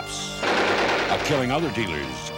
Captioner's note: gunshots